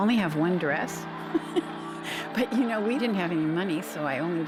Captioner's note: chuckling